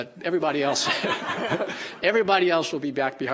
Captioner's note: audience laughing